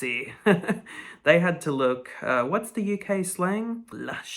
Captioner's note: chuckles